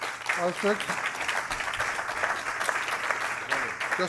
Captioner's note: applause